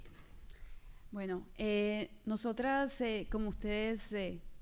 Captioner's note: speaking spanish